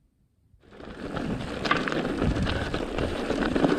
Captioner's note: tires rumbling